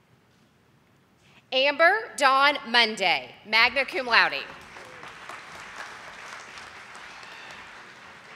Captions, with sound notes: Amber Dawn Monday, magna cum laude. (audience applauding)